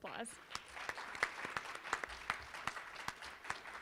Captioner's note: applause